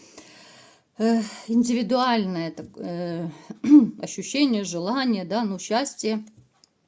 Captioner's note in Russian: откашливается